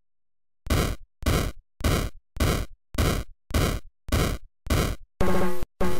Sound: weapon firing

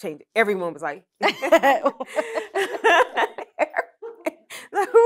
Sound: laughter

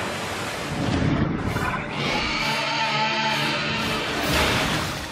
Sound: monster screeching

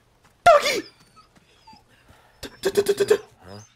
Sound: gasp

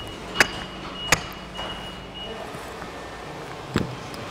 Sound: beeping; wood clattering

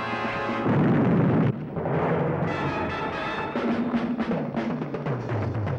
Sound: explosion

